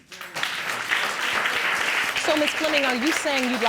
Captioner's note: audience applauding